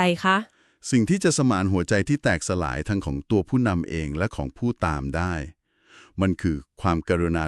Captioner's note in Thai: เสียงสูดหายใจ